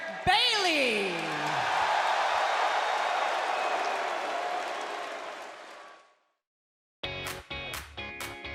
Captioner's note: crowd cheering